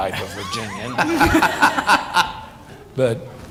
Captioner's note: laughter